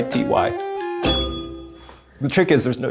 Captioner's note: bell rings